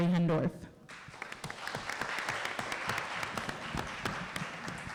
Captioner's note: applause